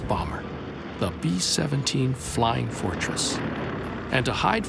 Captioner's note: airplane engines